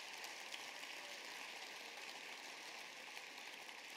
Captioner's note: applause